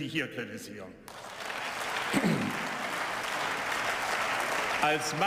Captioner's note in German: Beifall